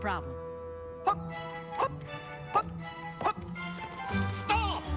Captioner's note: chuckles